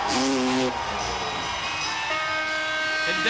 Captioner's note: buzzer